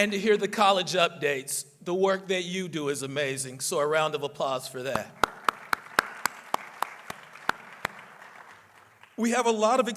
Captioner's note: applause